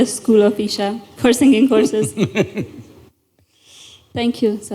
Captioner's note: Sadhguru laughs